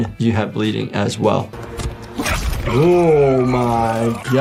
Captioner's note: Omni-Man grunts; dramatic music